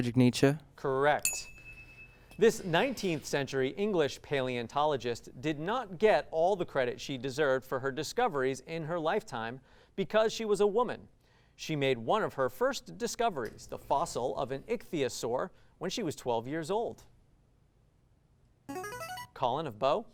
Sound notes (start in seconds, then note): 1.2 ding sound; 17.1 ring-in sound